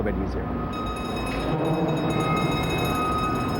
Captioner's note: alarms